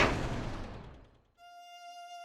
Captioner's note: a/c clunks off